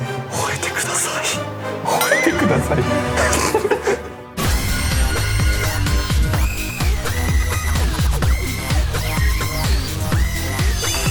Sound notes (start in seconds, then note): 2.0 laughs